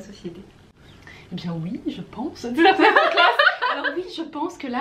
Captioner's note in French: rires